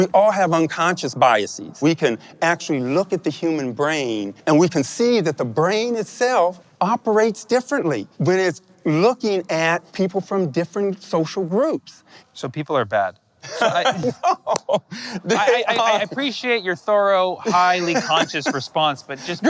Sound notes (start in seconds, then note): 13.4 laughing